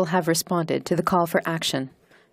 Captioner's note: speaking in French